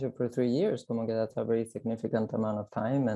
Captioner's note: speaks in foreign language